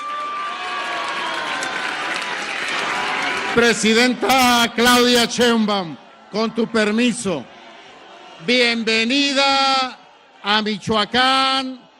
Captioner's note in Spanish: aplausos